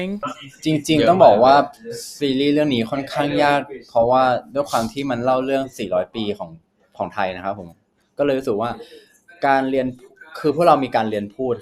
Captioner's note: answering in Thai